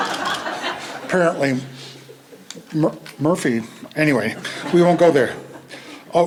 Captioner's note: laughter; laughter